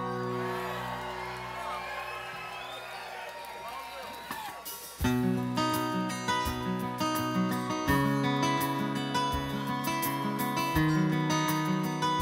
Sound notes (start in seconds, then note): 0.0 audience cheers; 0.0 audience applauds